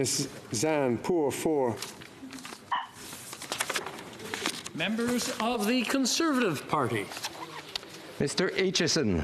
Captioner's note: speaking FRENCH